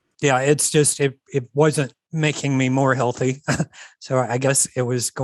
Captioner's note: chuckles